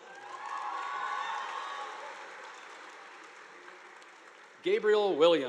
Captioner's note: students cheering; audience applauding